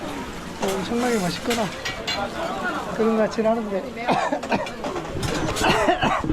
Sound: cough, cough!

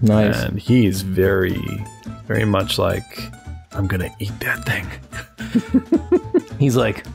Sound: chuckles

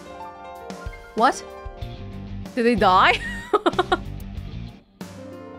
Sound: chuckles

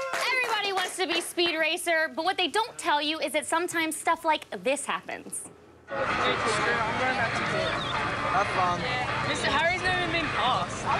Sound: applause

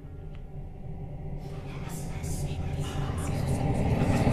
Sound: demonic whispers; intense music plays

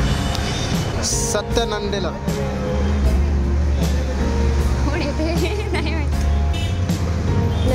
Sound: giggling

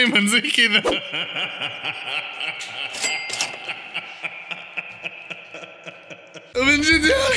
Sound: laughter

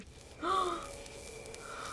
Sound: static buzzing; gasps

